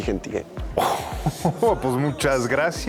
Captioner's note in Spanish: Risas